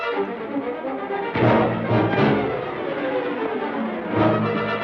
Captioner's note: thud